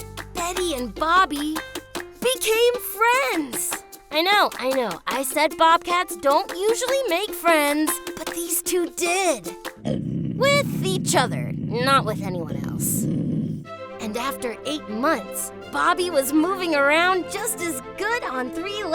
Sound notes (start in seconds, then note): 9.8 growling